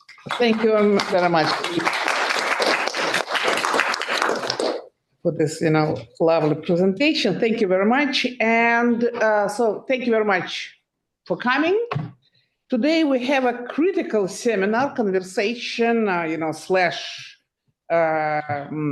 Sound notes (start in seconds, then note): 2.5 everybody claps